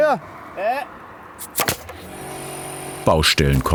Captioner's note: stapling